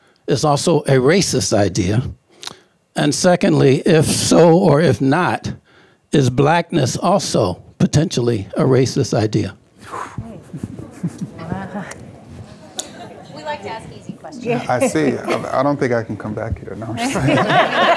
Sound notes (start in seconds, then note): 9.8 panel and audience murmuring